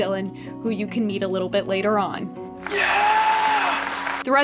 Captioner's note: cheering from offscreen